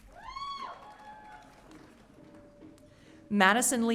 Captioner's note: audience cheering